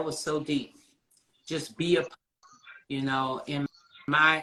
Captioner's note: sound distorting